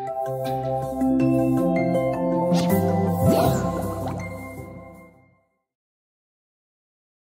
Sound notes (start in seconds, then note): 0.0 soft music; 3.1 swooshing sound